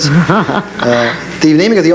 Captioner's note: laughs